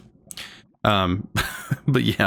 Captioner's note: laughs